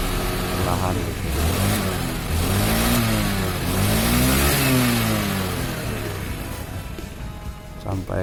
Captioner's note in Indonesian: Gerung - gerung mesin